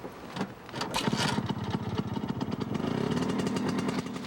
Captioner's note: starts scooter